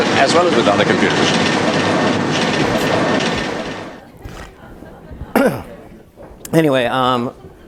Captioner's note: cough